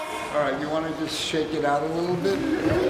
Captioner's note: children in unison